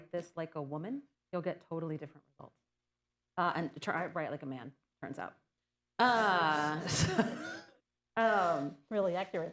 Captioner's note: laughter